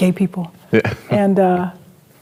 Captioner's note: chuckles